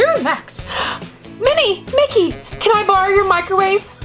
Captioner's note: gasps